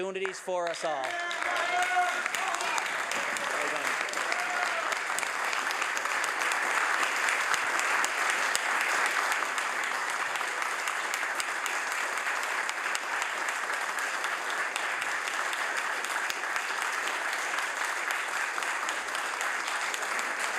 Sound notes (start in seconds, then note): 5.8 some Applause